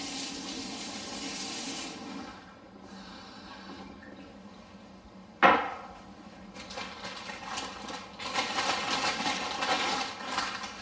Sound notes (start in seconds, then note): 0.0 water running; 5.4 thud; 6.8 rustling